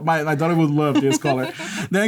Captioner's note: laughter